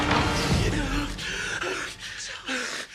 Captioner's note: panting